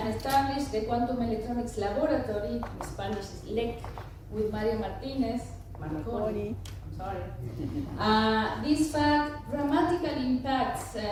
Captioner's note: in spanish LEC